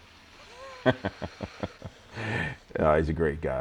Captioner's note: laughing